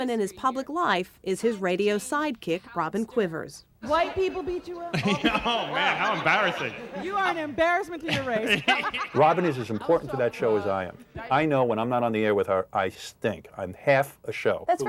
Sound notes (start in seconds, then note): 8.4 laughing